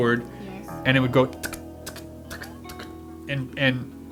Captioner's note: makes clicking sounds